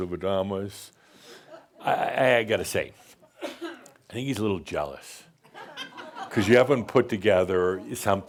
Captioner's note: some chuckles